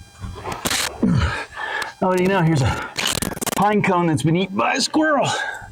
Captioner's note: scratching noise